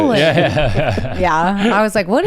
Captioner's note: laughs